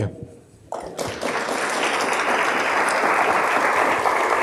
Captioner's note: applause